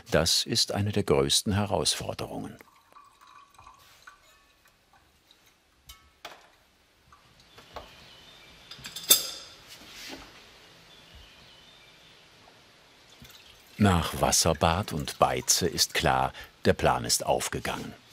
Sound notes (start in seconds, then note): 2.2 quiet gurgling; 7.0 quiet chirping of birds